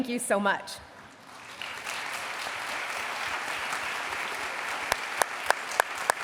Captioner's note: applause